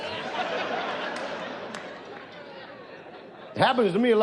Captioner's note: audience laughs